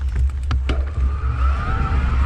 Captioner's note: clunking